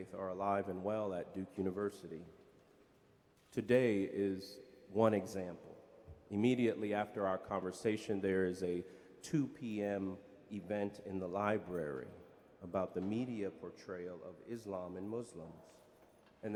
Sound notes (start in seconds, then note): none